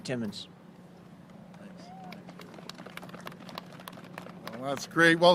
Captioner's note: applause